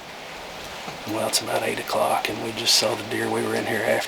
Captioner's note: whispering